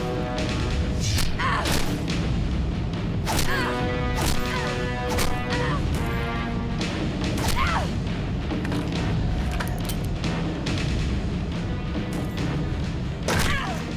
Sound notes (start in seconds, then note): 0.2 Riley grunts; 0.2 air whooshes; 2.7 solid thunks; 6.5 fleshy thud; 7.4 Riley grunts; 8.4 gun clicks; 12.3 heavy thud; 13.3 Riley grunts